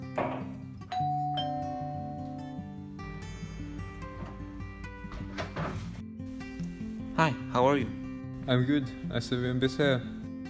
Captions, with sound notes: [Door bell ringing] Hi, how are you? I'm good. I see you've been busy here.